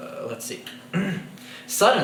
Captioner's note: clears throat